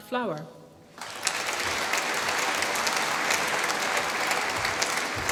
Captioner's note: applause